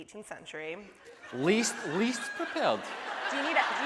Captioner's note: audience laughing